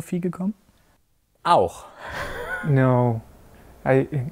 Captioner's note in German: lacht